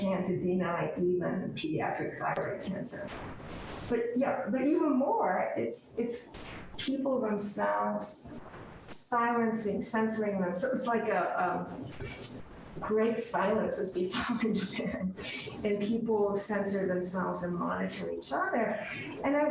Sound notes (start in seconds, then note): 13.8 laughs